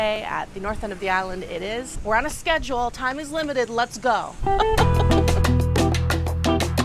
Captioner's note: laughs